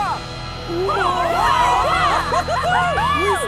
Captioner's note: cheering